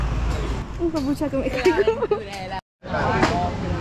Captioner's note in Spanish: risas